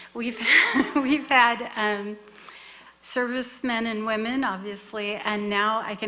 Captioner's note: laughs